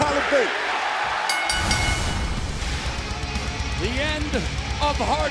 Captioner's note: bell ringing